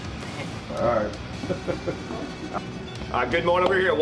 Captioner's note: laughing